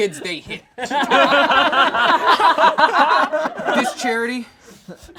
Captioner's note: all laugh